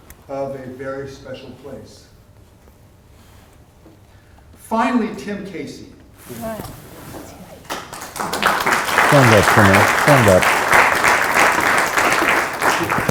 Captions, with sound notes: of a Very Special Place. Finally, Tim Casey. [applause] - Stand up for a minute. Stand up.